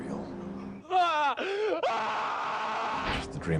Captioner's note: 75 years of characterization screaming in pain